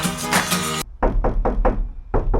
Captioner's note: sound test - knock knock